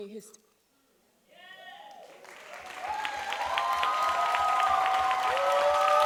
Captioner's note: audience cheering and applauding